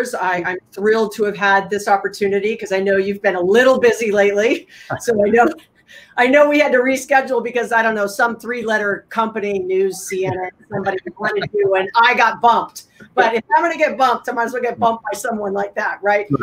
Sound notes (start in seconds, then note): 4.9 laughing